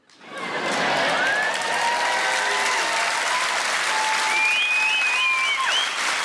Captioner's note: audience laughing and applauding